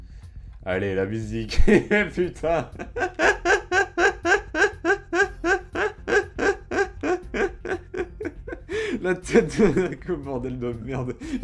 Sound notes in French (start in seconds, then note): 1.4 Rires